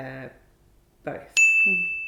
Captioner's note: bell dings